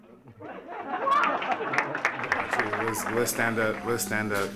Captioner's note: audience laughing; audience clapping